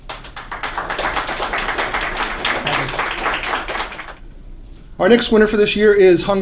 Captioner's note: applause